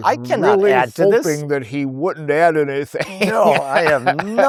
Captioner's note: laughing